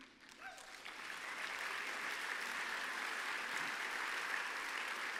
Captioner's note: applause